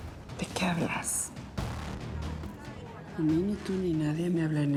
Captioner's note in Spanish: en voz baja